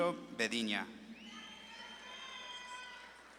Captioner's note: audience claps and cheers